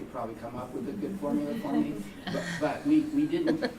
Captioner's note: laughter